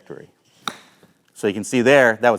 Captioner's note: ball thwacks